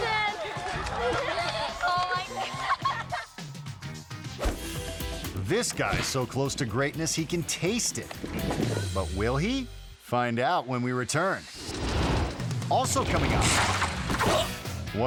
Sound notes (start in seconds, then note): 3.9 laughing; 4.8 dot whooshing; 4.8 upbeat music; 11.4 logo swooshing; 14.0 man thudding